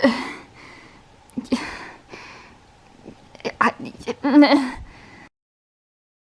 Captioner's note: distressed noises